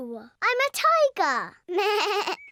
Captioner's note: bleats